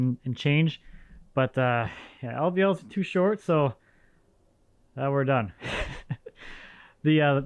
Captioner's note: laughs